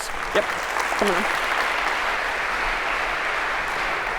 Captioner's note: applause